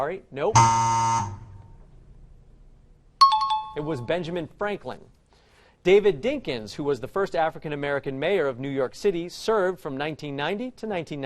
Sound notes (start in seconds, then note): 0.5 buzzer; 3.2 time chime